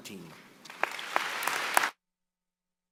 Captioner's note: applause